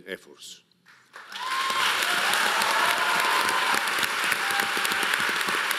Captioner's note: audience applauding